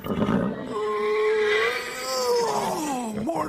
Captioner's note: yawns